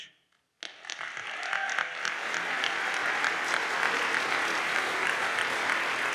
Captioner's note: audience cheers and applauds